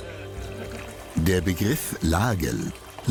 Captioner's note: water pours